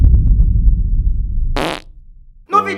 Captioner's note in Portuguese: barulho de peido